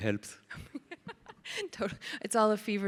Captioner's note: laughs